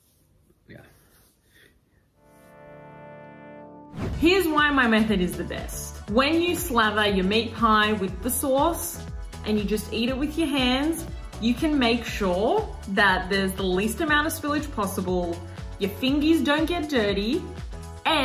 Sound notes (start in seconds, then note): 2.5 gentle music; 3.9 air whooshing